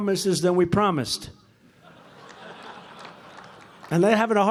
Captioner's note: laughter